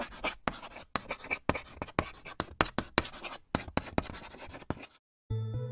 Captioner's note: chalk writing on a chalkboard